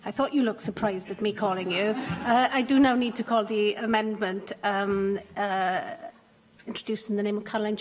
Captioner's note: laughter